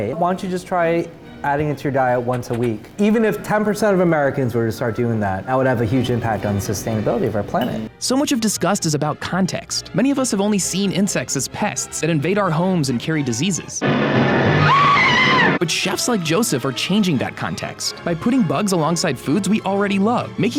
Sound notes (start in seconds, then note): 13.8 intense music; 14.5 woman screaming